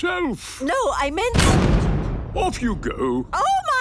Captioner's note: blasts off